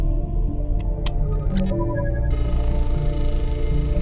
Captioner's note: digital chime; atmosphere decompressing